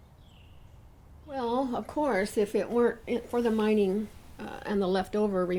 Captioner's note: voiceover